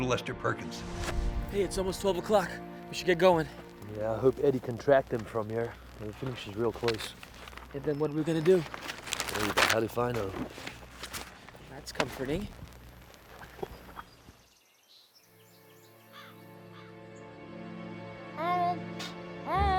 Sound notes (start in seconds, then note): 12.8 birds squawking; 12.8 sinister music